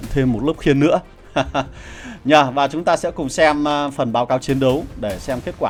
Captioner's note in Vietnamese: tiếng cười